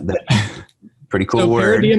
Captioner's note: laughs